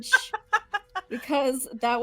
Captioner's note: laughing